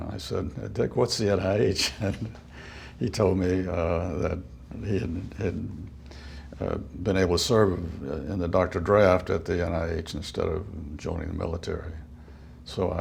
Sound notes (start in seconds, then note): 1.8 chuckle